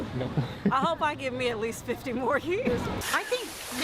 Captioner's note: Gülme; Gülme